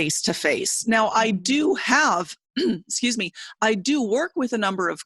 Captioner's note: clearing throat